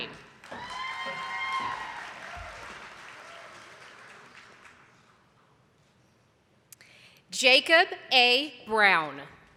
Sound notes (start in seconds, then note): 0.4 audience applauding